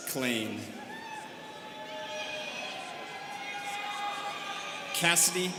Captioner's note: students cheering